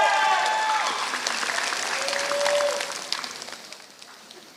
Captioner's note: applause